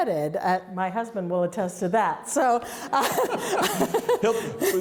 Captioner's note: laughs